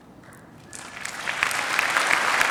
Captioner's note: applause